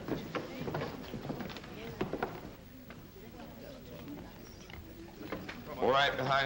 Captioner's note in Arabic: الأقدام تصعد الدرجات; ثرثرة ناعمة